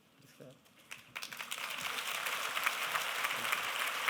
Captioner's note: applause